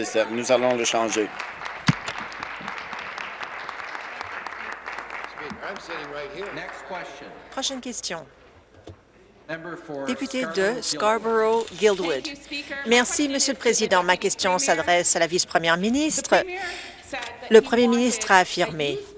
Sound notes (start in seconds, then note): 5.0 some Applause